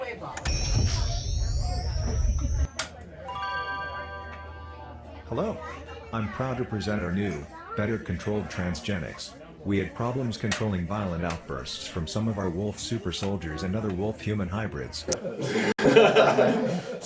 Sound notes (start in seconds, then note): 0.4 machinery powers up; 3.2 chime; 15.2 laughter